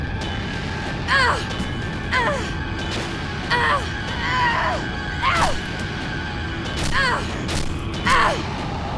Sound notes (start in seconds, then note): 0.2 Riley grunts; 3.4 Riley groans; 7.5 thuds